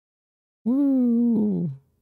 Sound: spoopy voice

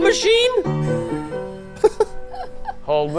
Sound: laughing

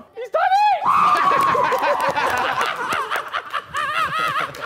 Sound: JJ screaming

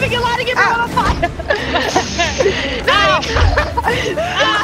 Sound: laugh

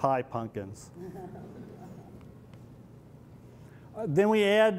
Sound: laughter

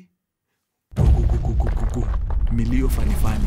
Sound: earthquake rumbling

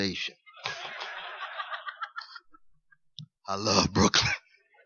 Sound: laughter

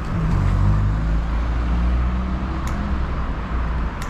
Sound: traffic sounds

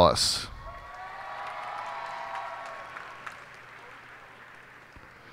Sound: cheers and applause

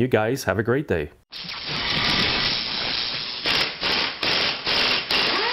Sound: chainsaw whirring

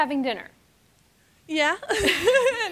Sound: chuckles

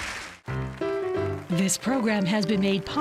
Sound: applause

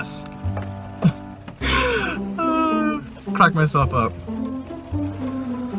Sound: laughing

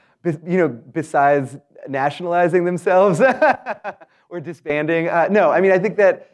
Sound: laugh

